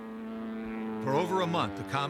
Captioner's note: engine whistling